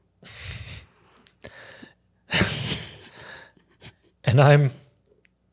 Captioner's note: both chuckling